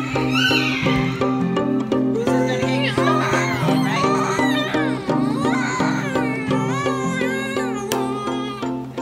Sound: loud screaming and crying

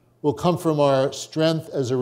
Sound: none

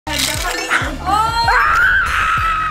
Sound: ice jingling; child screaming

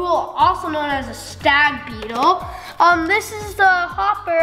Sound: none

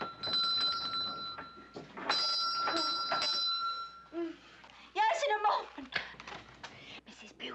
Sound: doorbell tinkling

